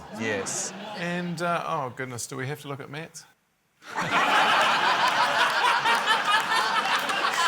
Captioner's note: laughter